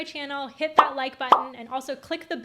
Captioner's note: buttons popping